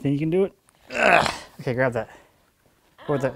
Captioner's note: grunts